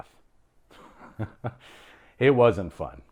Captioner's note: laughs